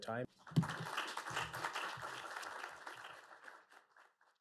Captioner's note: audience applauding